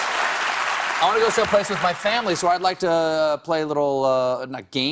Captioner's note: applause